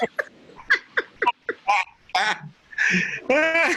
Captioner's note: laughing